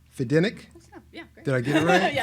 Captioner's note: laughs